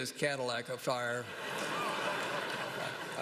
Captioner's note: laughter